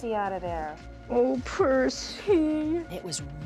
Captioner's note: crying